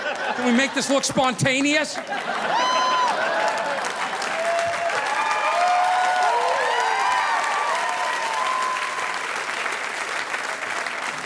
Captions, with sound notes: Can we make this look spontaneous? (audience applauding)